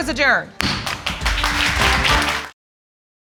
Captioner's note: audience applauding